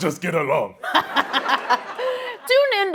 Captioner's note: laughing